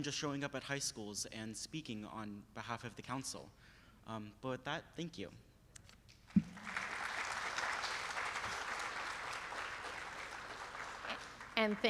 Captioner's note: applause